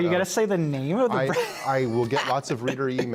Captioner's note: laughter